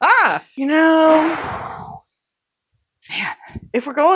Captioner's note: pheeeew